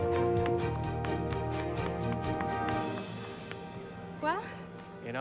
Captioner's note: Jonathan clapping